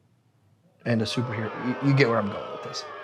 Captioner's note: crowd booing